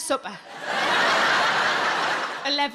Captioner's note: audience laughing